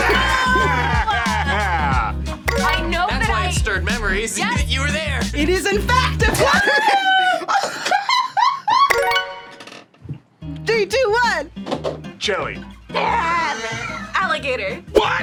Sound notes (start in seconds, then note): 6.0 both laugh